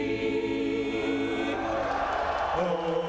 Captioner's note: cheering; singing